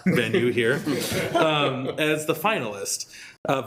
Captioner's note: group laughing